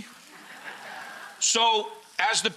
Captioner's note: audience laughs